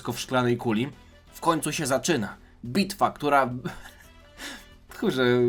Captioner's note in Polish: śmiech